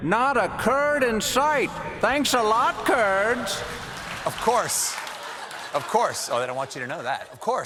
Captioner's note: laughter